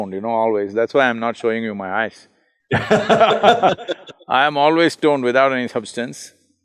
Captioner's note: both laugh